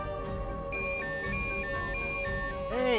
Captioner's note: phone ringing